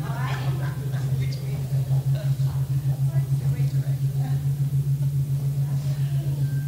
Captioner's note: laughs